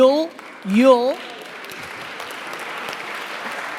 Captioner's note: applauding